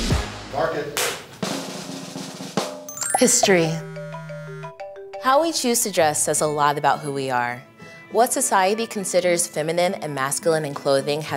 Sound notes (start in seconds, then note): 1.1 drum roll; 2.9 phone ringing